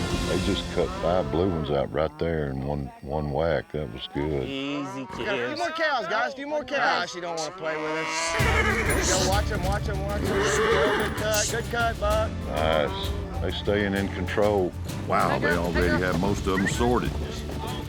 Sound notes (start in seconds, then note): 4.0 overlapping chatter; 6.8 horse neighs; 6.9 cow bellows